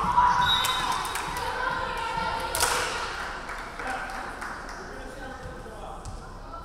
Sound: referee whistling; crowd clapping

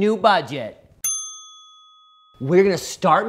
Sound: bell chiming

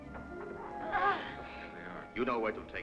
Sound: children grunting

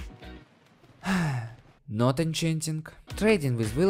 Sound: gasp

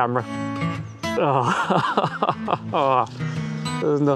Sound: laughter

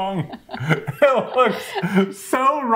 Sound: both laughing

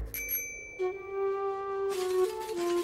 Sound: bell dings

